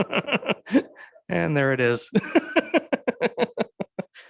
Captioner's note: laughs